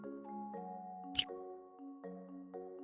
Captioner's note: click sound; calm music